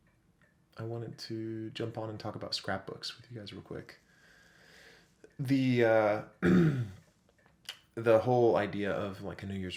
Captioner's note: clears throat